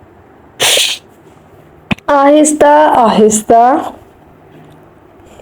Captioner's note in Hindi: नाक से की जाने वाली आवाज़